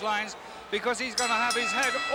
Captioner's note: bell rings